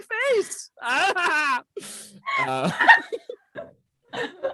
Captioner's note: group laughing